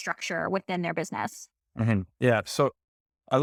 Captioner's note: laughing